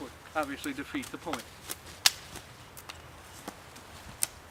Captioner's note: wood snapping